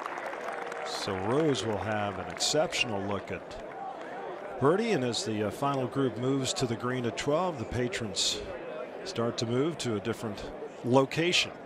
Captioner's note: cheers and applause